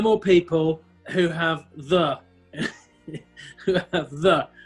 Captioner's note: chuckling